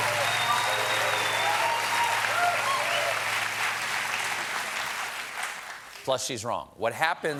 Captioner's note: cheers and applause